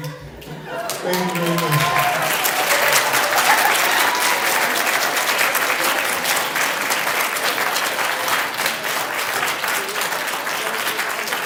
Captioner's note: applause